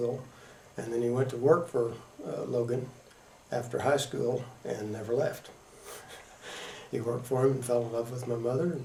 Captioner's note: laughs